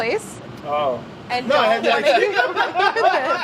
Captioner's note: laughter